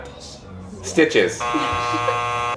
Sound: buzzer buzzing

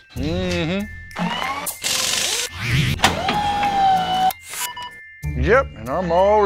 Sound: machines whirring and beeping

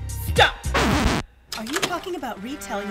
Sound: record scratches

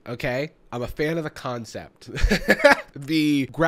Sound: laughs

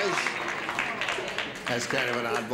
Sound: light applause

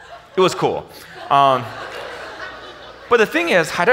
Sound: audience laughs

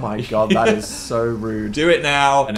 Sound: laughing

